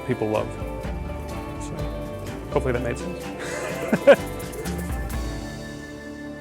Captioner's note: laughs